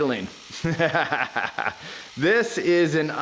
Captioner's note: laughs